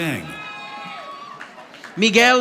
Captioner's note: audience applauding